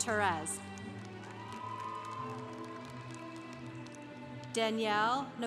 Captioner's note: congregation applauding